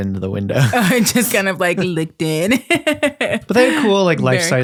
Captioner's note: laughs